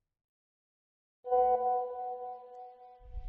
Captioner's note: message alert tone